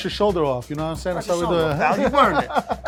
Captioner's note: laughing